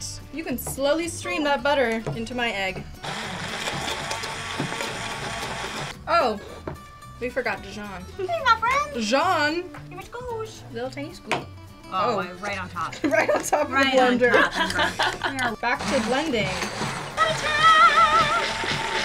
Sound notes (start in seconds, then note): 3.0 blender whirring; 15.7 blender whirring